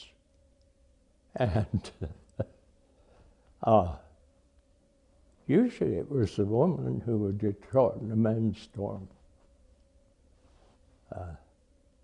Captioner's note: laughs